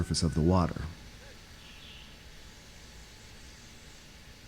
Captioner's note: water hissing